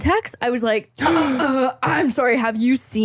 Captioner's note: gasping